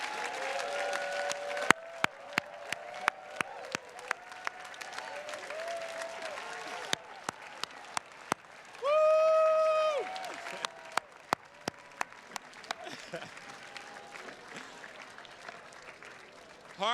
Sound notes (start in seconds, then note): 10.2 chuckles; 11.7 attendees clapping